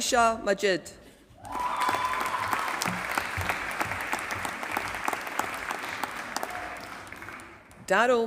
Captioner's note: applause